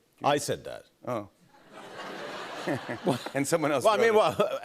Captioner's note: laughter